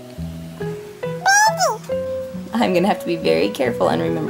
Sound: baby jabbering

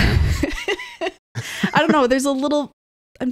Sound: laughing

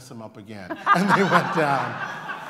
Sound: laughter

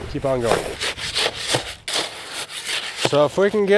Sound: shovel scraping

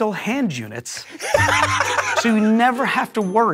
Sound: Joe laughs

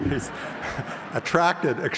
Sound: audience laughs

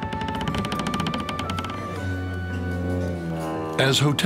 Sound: machinery creaking

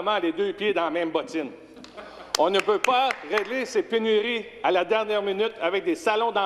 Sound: speaking French

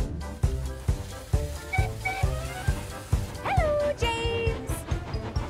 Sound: Rebecca Whistles

